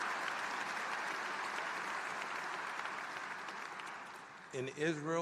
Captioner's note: applause